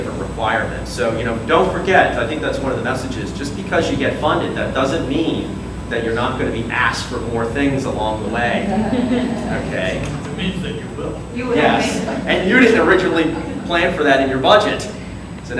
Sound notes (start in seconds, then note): 8.5 audience laughs